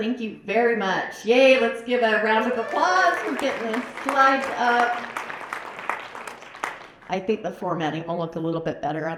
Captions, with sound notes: Thank you very much. Yay. Let's give round of applause for getting the slides up. [APPLAUSE] I think the formatting will look a little bit better